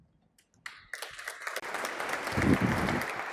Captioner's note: applause